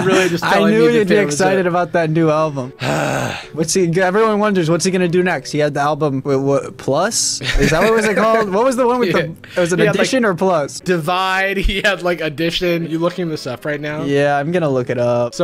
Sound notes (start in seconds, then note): 2.8 groans